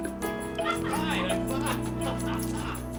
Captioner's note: laughing